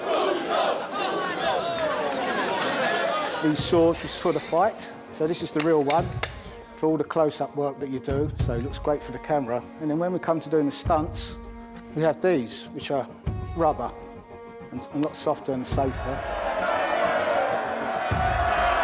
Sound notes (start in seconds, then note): 1.0 laughter